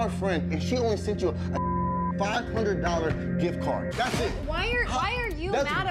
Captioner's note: beep